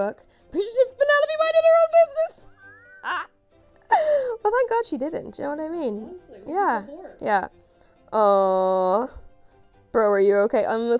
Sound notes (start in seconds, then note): 2.5 chuckles